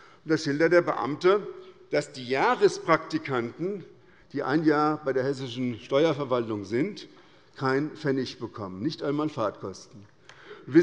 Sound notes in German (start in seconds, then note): none